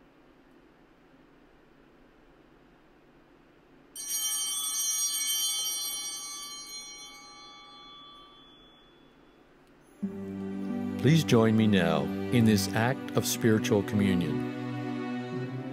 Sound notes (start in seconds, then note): 3.9 altar bells ringing